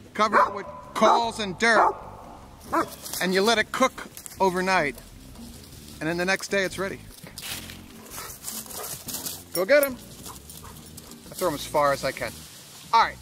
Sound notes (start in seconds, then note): 1.7 dog barks; 3.4 leaves crunch; 9.8 dogs pant